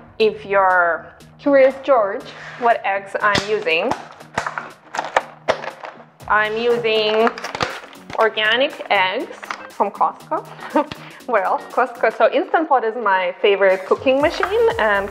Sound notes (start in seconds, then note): 3.2 hard plastic popping; 10.2 laughs